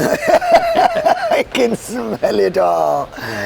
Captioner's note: laughs